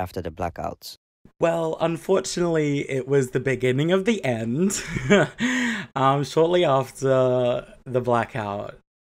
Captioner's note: laughs